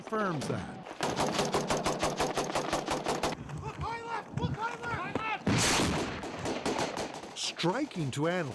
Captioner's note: gunfire